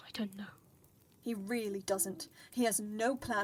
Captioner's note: none